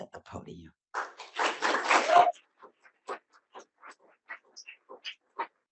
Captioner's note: audience applauding